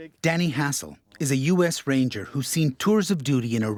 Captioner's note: voiceover